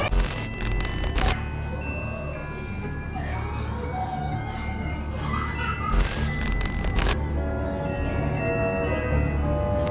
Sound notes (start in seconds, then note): 5.2 Blake crying